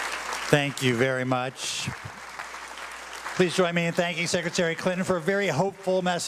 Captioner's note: applause